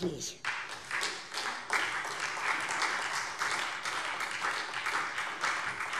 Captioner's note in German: Beifall SPD